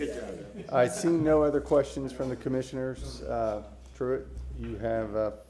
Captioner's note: laughter